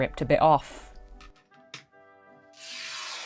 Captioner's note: fabric ripping